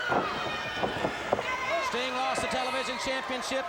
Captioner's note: crowd cheering